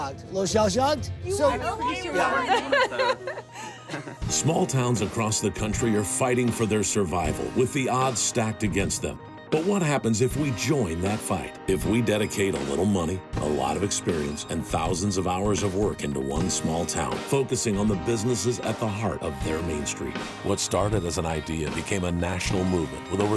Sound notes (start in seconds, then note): 1.8 laughing